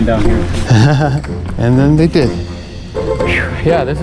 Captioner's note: laughs